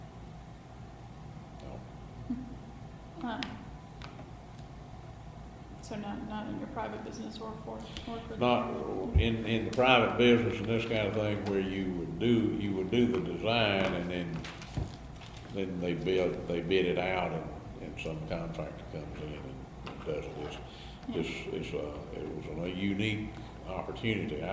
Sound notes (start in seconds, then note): 15.2 laughs